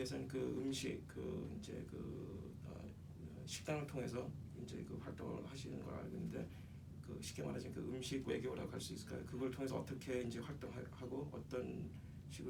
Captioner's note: speaking korean